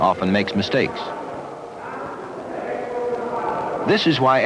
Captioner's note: indiscriminate chatter